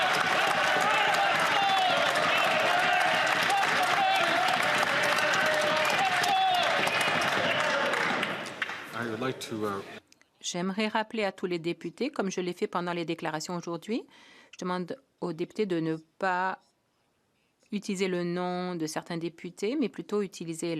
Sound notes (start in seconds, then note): 3.3 some Applause